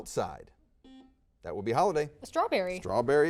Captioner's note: buzzer dings